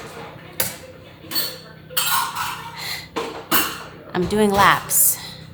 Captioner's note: dishes clattering